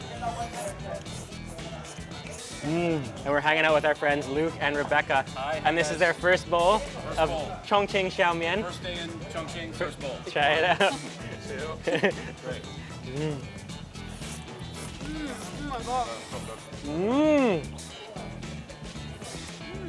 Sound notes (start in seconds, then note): 0.0 slurps; 2.6 moans; 12.6 slurps; 14.7 moans